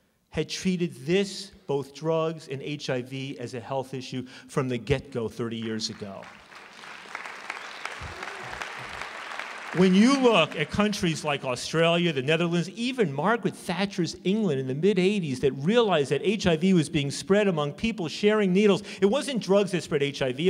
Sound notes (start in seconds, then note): 7.6 applause